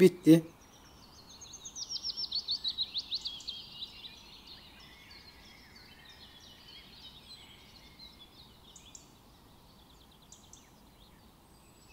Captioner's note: bird Sounds